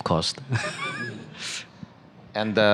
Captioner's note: laughter